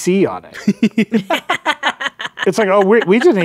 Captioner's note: laughing